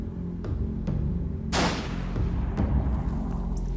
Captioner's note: gunshot